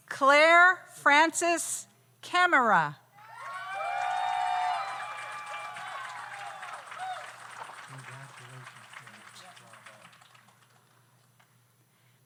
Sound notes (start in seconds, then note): 3.2 audience cheers; 3.3 audience applauds